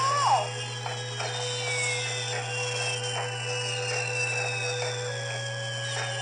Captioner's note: fireworks Whistling